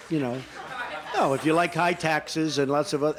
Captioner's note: laughter